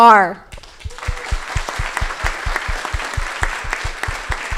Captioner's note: crowd applauding